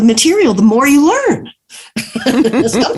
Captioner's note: laughs